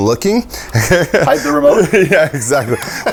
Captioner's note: laughs